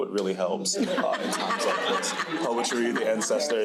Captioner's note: crowd laughing